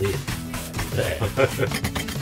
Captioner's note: laugh